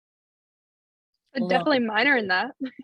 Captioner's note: laughs